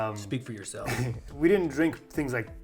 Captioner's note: chuckles